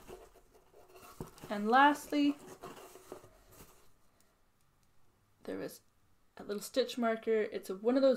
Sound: box shuffling sounds

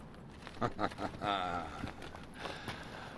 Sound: laughing

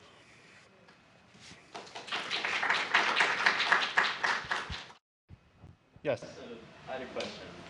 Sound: applause

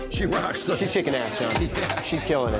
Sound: laughs

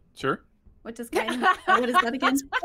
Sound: laughs

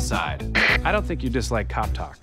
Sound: walkie talkie static

